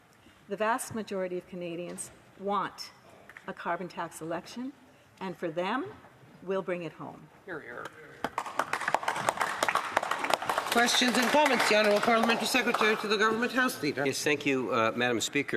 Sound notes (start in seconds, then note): 11.9 some Applause